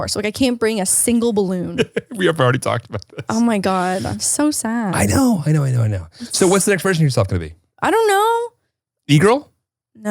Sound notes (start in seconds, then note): 1.6 laughs